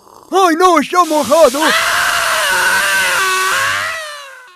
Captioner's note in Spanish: Gritos de ardor